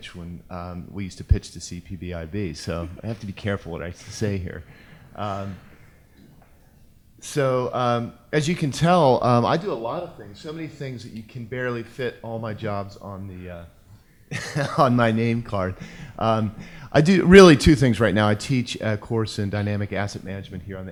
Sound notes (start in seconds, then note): 14.3 laughs